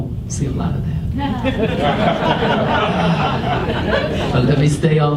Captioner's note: audience laughs